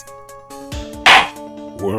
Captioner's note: gavel slams!